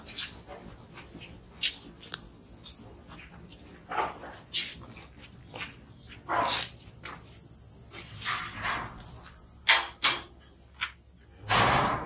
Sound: gates closing

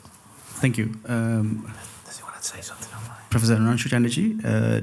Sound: background whispering

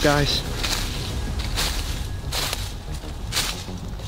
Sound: footsteps rustle

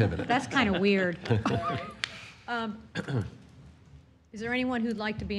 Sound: laughter

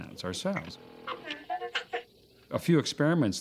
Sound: beep Whistle

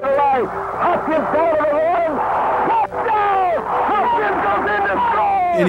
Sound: announcer and crowd cheer

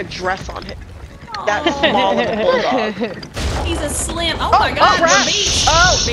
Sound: laugh

